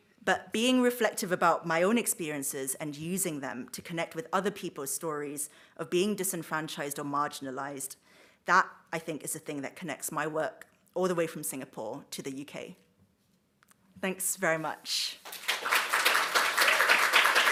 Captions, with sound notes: But, being reflective about my own experiences and using them to connect with other people's stories of being disenfranchised or marginalised, that, I think, is a thing that connects my work, all the way from Singapore to the UK. - Thanks very much. - [Applause]